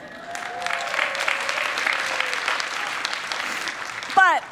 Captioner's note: people clapping